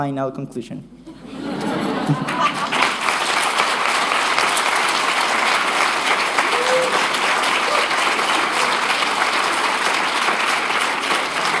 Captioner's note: applause